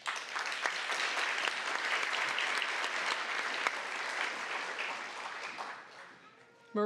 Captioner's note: applause